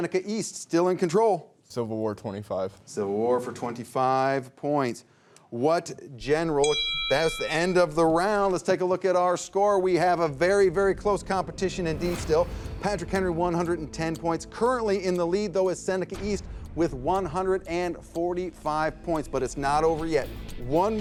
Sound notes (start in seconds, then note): 6.6 bell rings